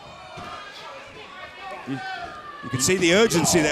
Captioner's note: crowd cheering